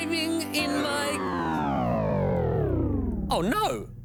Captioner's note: whirring